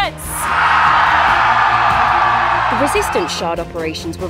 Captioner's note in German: Menge jubelt